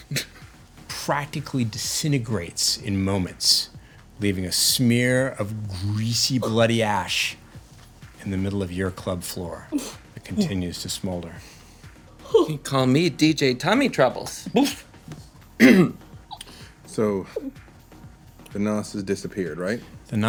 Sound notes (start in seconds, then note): 14.7 giggling; 15.6 gagging, clears throat